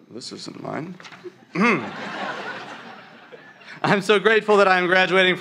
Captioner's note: laughter